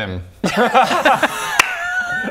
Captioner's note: gross laughter